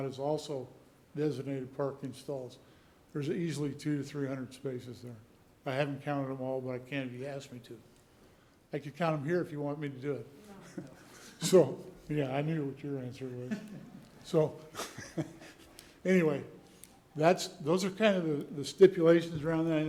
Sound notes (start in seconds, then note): 10.6 laughter; 14.6 chuckle